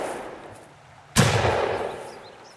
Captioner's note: gun shot; boom